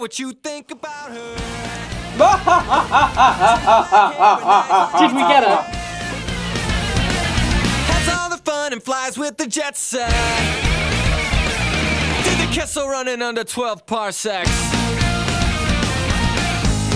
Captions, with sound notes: (maniacal laughter) Dude, we get it.